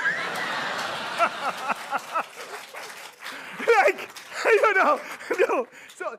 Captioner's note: laughter